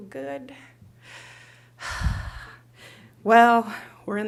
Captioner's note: sighs wistfully